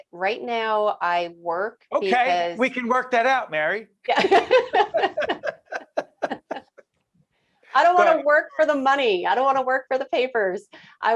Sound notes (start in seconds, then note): 4.3 laughing